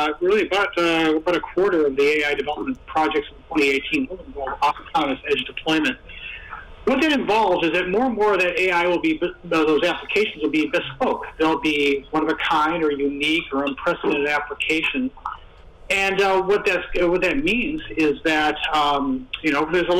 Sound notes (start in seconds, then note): 3.5 static interference with web-conference